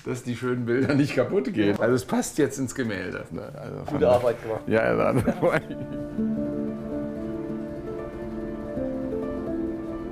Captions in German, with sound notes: dass die schönen Bilder nicht kaputtgehen. Es passt jetzt ins Gemälde. Gute Arbeit gemacht. (Lachen) (Sanfte Musik)